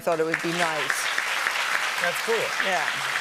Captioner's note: applause